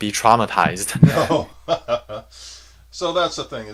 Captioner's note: laughs